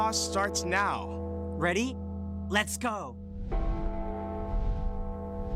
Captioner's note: bell tolling